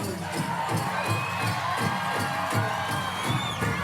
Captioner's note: crowd cheering